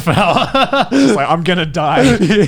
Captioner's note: laughing